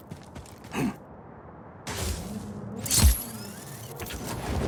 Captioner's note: character grunts; grapple whizzing